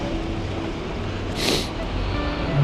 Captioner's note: sighs